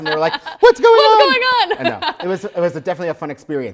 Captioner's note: laughs